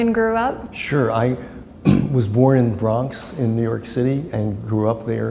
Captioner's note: clears throat